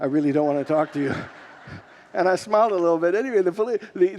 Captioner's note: congregants laugh